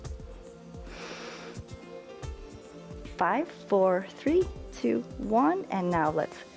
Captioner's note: inhales